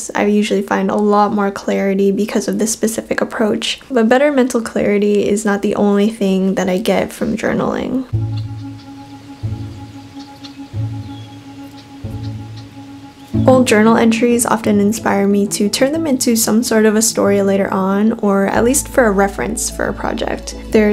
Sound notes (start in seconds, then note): 8.1 birds singing; 10.4 upbeat orchestral music